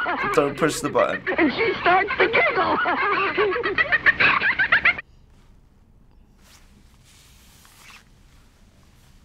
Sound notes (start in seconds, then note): 3.3 laughs eerily